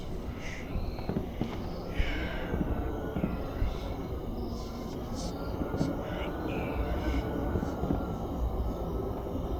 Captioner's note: A haunting whisper and the sounds of distant war